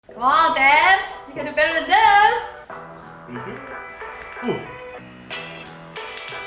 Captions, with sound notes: - Come on Dan! You can do better than this. (grunts)